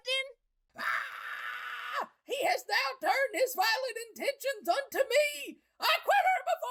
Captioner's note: screams